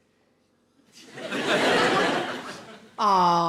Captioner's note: audience laughing